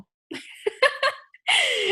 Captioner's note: laughs